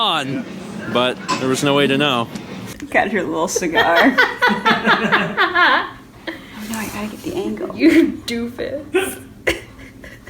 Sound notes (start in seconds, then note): 3.0 laugh